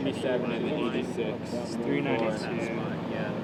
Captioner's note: chatter